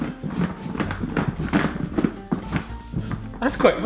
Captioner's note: apples tumbling